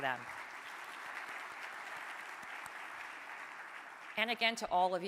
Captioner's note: audience applauding